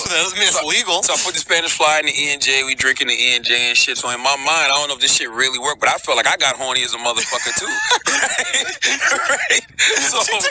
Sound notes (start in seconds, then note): 7.2 laughter